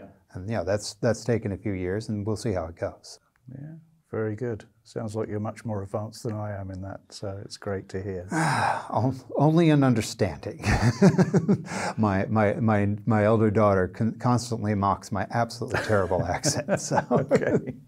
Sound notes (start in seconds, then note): 8.3 sighs; 10.6 laughing; 15.7 laughing